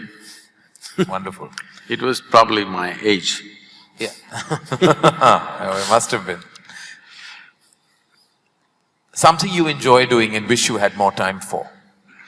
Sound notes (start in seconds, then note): 0.0 laughs; 4.2 both laugh